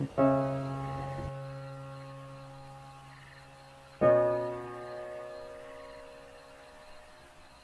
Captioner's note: insects chirping; emotional music